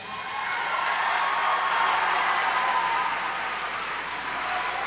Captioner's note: audience cheers and applauds